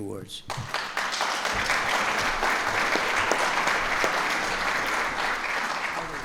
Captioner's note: applause